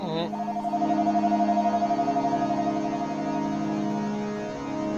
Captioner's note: phone ringing